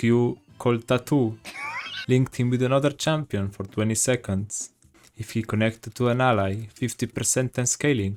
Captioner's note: haha